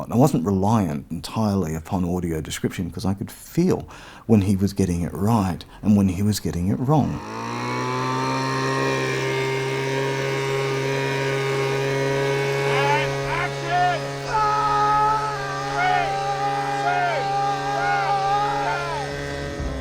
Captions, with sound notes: I wasn't reliant entirely upon audio description because I could feel when he was getting it right. And when he was getting it wrong. (leaf-blower roaring) And action! (screaming) Three, two, one, go!